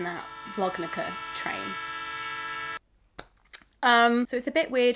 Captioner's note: train engine and whistle